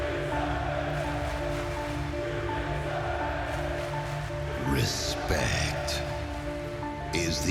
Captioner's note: crowd cheering